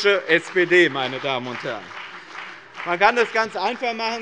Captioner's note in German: Beifall bei dem BÜNDNIS 90/DIE GRÜNEN und der CDU